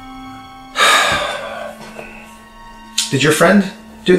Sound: Judge Kelly sighs

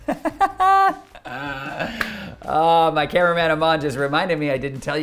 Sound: laughing

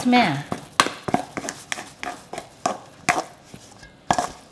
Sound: spoon clanking

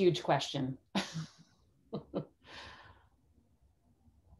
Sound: laughs

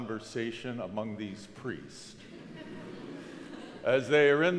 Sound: crowd laughs

